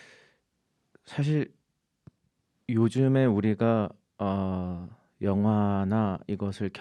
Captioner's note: speaking in Korean